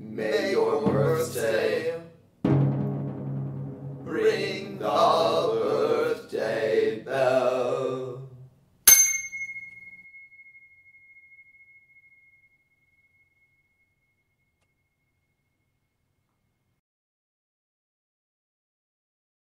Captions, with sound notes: May your mirth stay. [Drumroll.] Ring the birthday bell. [Bell.]